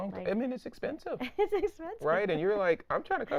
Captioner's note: laughing